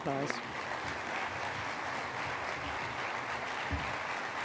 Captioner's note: applause